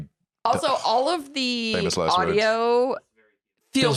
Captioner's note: sighs